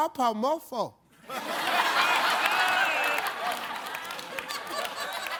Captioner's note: audience laughs